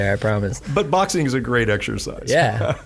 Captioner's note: laughing